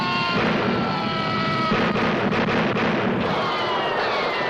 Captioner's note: guns banging